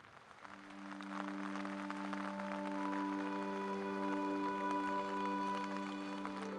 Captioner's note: rain pouring; soft music